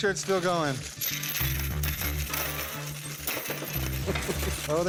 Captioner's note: coins clanging